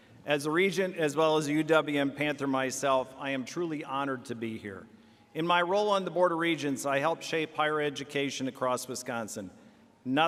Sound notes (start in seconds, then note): none